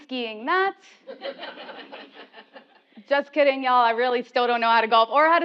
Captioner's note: laugh